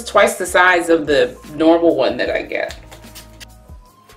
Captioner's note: spritzing of sponge in the background